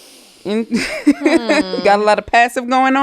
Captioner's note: laughing